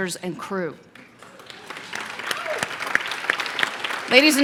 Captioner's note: applause